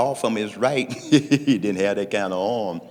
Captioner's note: laughing